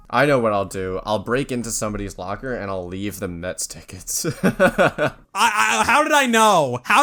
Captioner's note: laughs